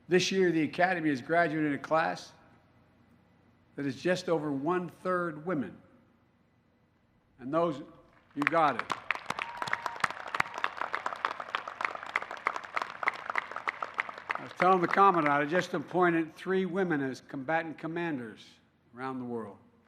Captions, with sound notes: This year, the Academy is graduating a class that is just over one third women, and those -- (applause) -- you've got it. I was telling the Commandant, I just appointed three women as combatant commanders around the world.